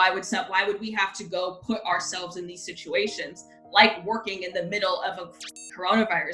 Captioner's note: static